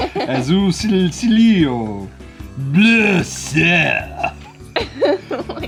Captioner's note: reading in foreign language